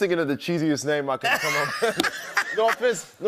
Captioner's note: laughter